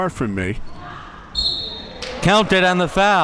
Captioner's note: whistle being blown